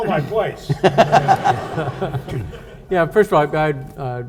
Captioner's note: audience laughs